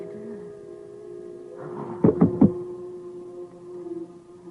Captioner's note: reporter faints over microphone; distant whirring and humming